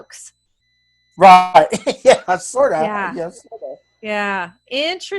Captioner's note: chuckles